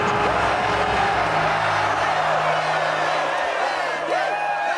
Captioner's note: cheering